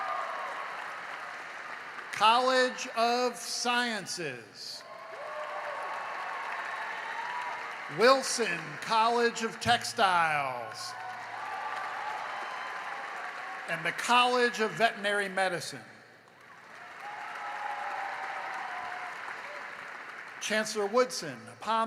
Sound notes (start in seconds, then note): 0.0 cheering and applause; 16.2 applause